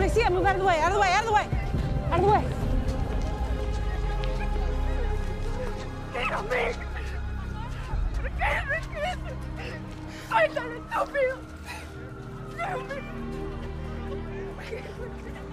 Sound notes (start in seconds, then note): 5.9 woman sobbing and speaking Spanish